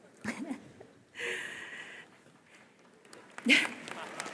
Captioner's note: audience applause